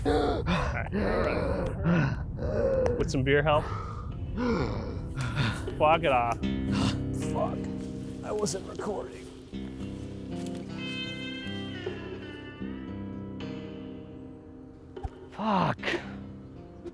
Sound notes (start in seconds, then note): 2.1 Dom wheezing; 10.1 slow twanging guitar music